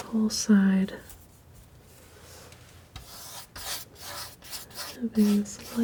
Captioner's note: scratching